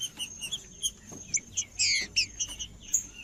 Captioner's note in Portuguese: trinca ferro cantando